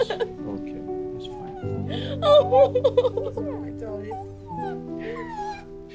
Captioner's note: Ruby whining; crying